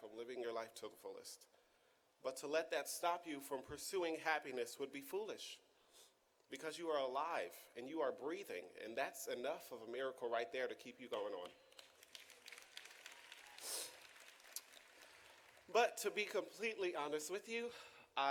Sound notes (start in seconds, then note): 11.1 audience claps